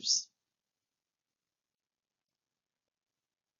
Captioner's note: silence